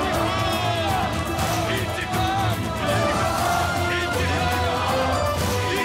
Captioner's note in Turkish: Hep bir ağızdan